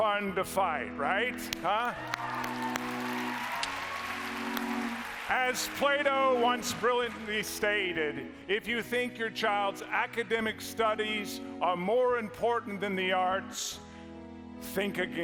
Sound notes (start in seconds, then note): 5.7 applause